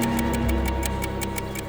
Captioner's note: ticking slows